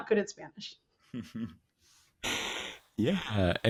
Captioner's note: chuckles